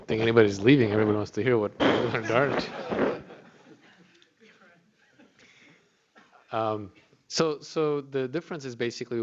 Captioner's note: laughter